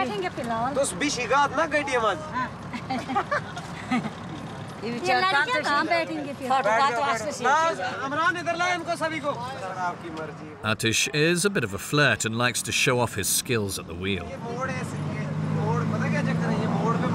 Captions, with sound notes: Atish is a bit of a flirt and likes to show off his skills at the wheel. [Foreign language spoken]